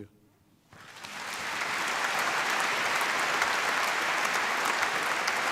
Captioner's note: applause